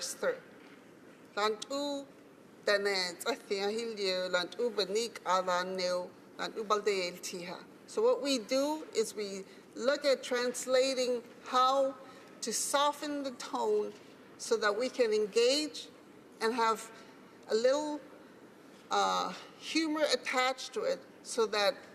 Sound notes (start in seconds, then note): 3.8 speaking Alternate Language